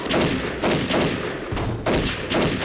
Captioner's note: gunfire banging